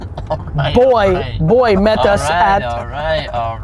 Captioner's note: laughs